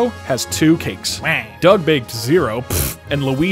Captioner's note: Pff